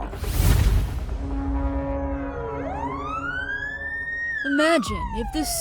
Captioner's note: police siren blaring